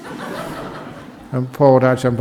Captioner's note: laughter